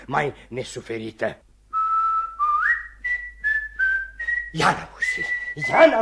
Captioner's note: whistles